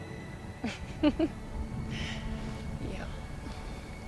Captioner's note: laughs